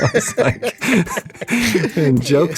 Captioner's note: laughs